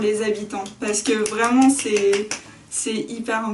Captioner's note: applause